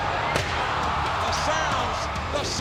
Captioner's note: audience cheering; chairs clanging